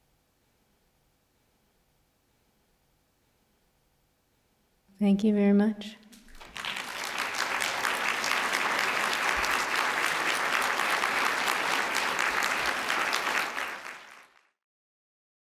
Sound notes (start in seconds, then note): 6.2 applause